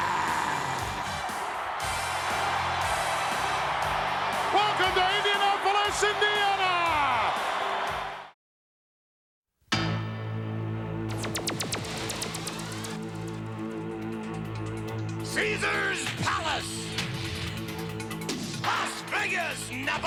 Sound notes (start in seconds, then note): 0.0 audience cheering and clapping; 4.0 upbeat music; 7.5 audience cheering and clapping; 9.8 dramatic music